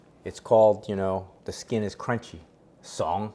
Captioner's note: Cantonese